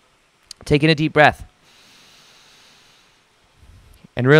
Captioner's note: inhales deeply